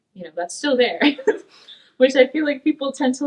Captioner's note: laughs